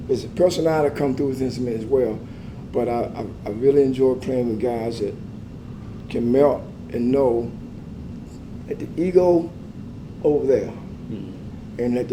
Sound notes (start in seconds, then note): none